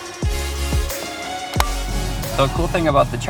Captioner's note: charger clicks in